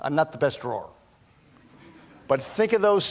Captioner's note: laughter